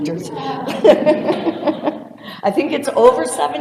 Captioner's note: laughter